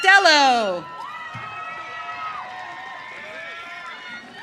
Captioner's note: audience cheering